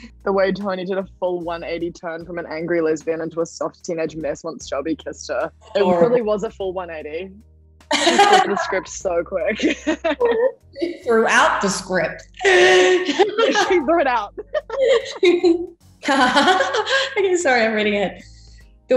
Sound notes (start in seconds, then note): 7.9 laughs; 12.4 both laughing